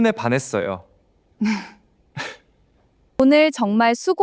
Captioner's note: they both give a shy laugh